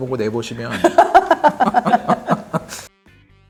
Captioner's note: hahahahahahaha